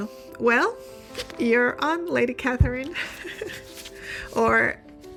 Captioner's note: laughing